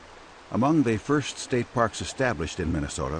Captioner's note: voiceover